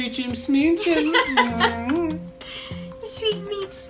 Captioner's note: laughs